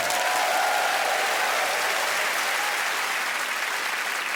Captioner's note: applause